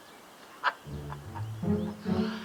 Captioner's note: Eduardo laughs